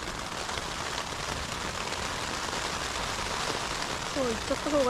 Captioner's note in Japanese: どんどん激しさを増す雨